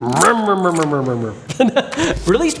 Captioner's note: imitating chainsaw noises